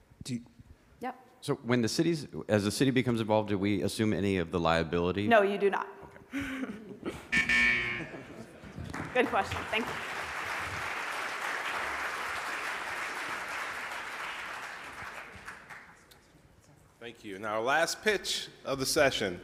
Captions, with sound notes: - So as the city becomes involved, do we assume any of the liability? - No you do not. - Okay. (buzzer rings) - Good question, thank you. (audience applauds) - Thank you. Now our last pitch of the session